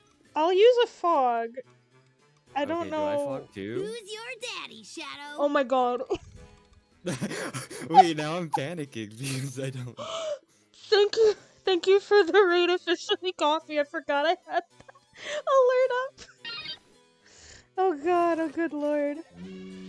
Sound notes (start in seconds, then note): 7.0 laughs